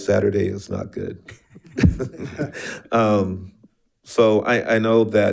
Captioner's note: board member laughs